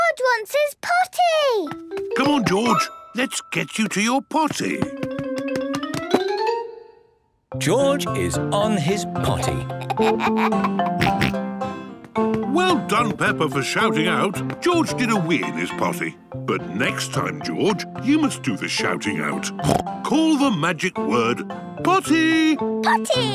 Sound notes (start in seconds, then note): 9.4 giggles, snorts; 19.6 snorts